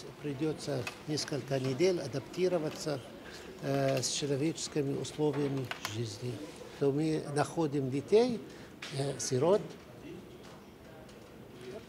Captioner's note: speaking foreign language